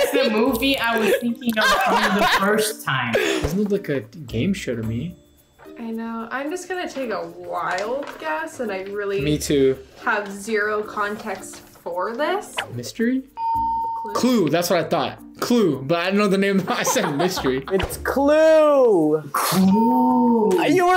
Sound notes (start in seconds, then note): 13.4 bell rings